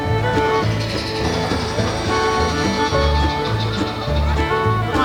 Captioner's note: train chugging and whistling